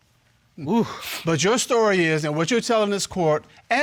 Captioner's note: sighs